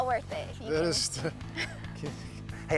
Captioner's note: chuckles